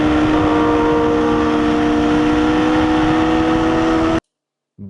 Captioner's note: tires screeching